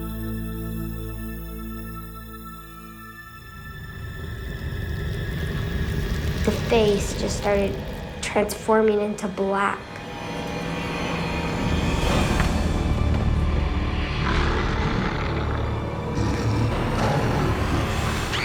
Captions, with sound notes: - The face just started transforming into black. (growling) (screaming)